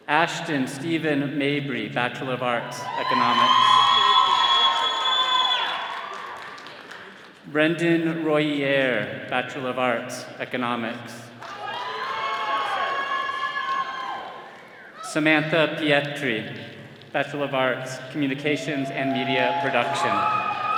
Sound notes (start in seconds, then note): 2.7 all cheering; 11.4 all cheering; 20.5 all cheering